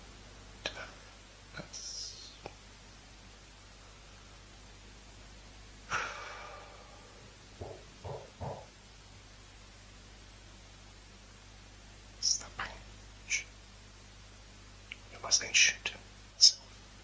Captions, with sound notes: That's... [Sighs] [Banging] It's the banging.. Shh. Who am I saying "shh" to? Myself.